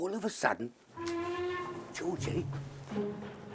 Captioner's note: train horn